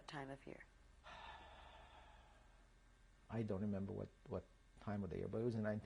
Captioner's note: sighs